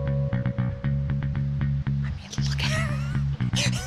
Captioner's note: laughs